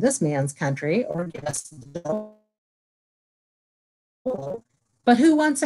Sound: silence

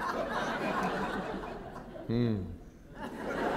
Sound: laughter

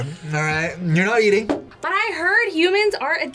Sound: laughs

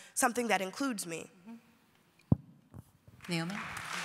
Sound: applause

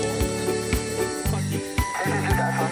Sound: aircraft radio

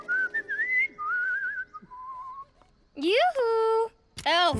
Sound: whistling

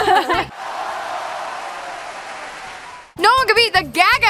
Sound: crowd cheering and clapping

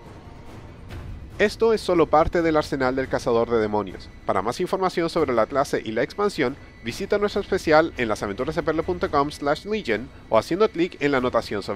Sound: Spanish

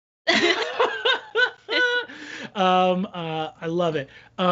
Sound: both laughing

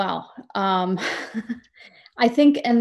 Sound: laughs

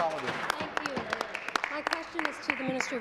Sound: applause

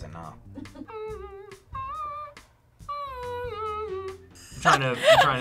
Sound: React laughs; hums

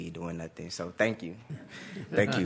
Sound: laughter

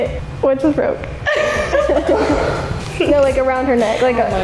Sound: laughing

